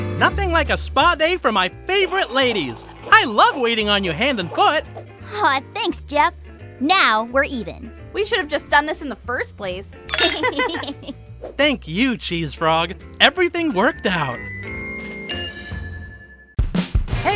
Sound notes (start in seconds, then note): 10.1 clinking; 10.1 both girls laugh